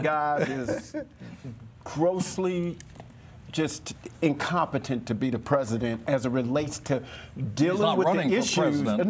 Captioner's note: laughter